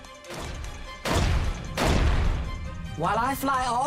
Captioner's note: stomping